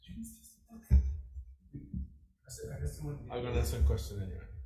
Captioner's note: testifier faintly speaking